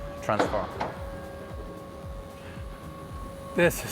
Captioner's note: car whirring